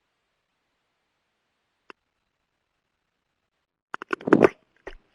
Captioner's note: keyboard clicking